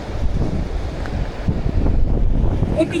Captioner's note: wind whooshing